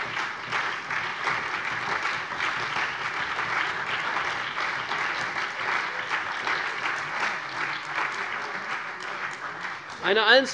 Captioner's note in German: Beifall CDU, BÜNDNIS 90/DIE GRÜNEN, vereinzelt SPD und AfD